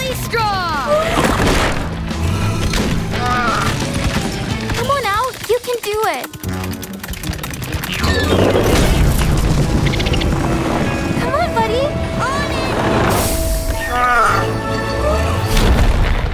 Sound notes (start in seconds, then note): 8.9 squeaking; 15.0 thudding